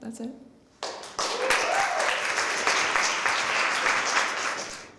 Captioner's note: applause